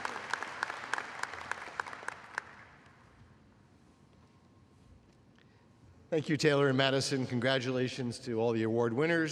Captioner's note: applause